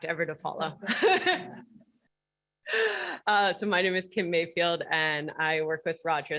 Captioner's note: laughter